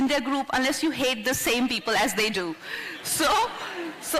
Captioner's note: few laugh